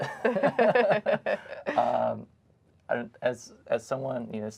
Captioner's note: laughs